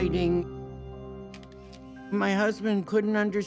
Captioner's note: shutter clicking